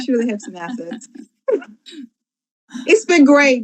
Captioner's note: group laughs